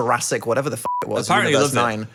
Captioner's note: beep